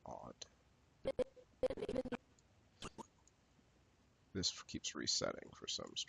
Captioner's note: audio skipping